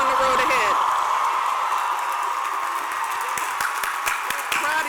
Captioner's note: cheers and applause